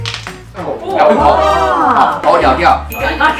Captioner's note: everyone is yelling in excitement